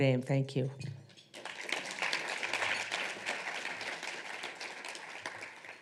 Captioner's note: audience applauding